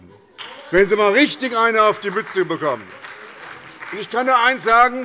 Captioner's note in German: Beifall bei der SPD – Zurufe von der CDU